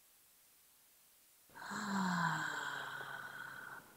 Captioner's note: sighs